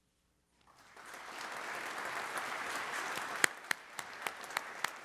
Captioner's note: audience applauds